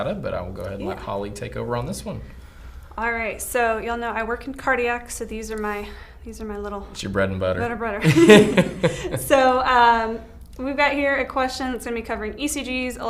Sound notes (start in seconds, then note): 8.0 laughs